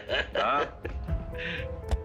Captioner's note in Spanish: Risas